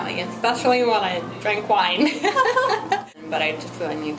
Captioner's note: laughing